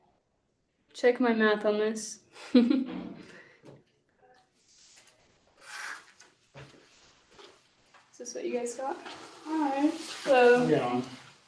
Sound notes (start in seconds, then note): 2.4 chuckles